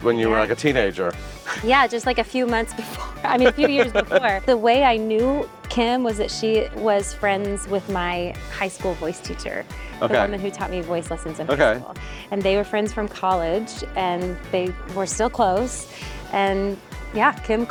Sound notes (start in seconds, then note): 3.0 laughing